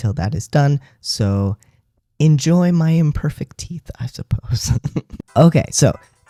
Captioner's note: laugh